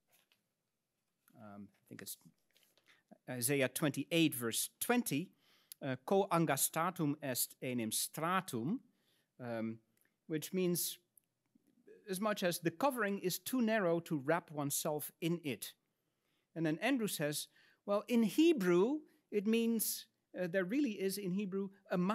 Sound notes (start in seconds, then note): 0.2 paper rustles; 6.1 speaks in Latin